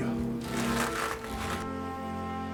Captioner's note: walking